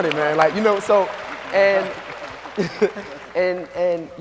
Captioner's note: audience applauds